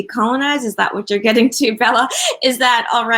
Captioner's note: laughs